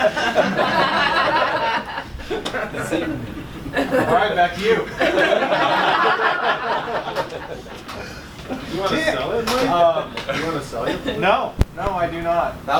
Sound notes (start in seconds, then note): 0.0 laughter